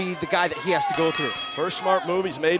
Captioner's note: bell ringing